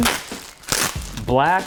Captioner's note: package rustles